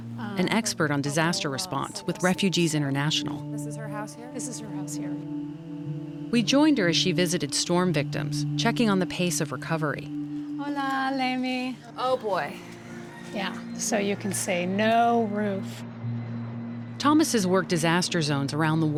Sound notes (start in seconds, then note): 10.1 speaking Spanish